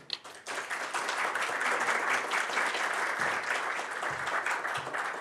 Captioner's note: applause